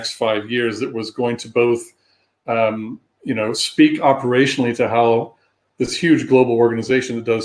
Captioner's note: erm